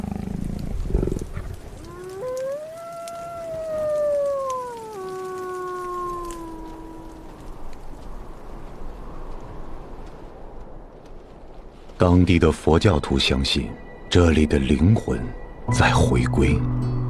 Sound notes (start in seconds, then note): 1.5 wolf howls; 8.2 wind blows